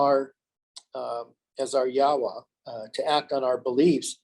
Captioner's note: foreign language